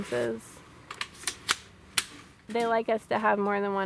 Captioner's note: gun magazine clicks